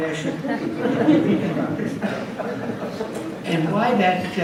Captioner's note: audience laughs